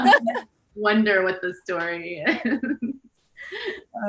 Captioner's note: everyone laughs; laughs